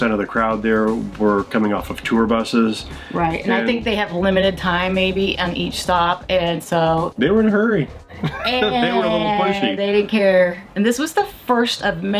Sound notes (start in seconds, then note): 8.1 laughing